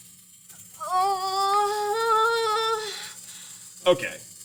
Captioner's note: more stressed noises